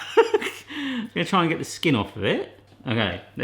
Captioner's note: laughs